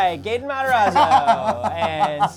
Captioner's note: laughs